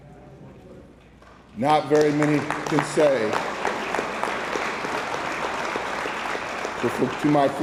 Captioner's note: attendees applauding